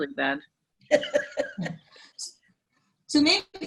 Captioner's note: laughing